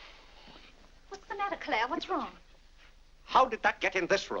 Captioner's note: none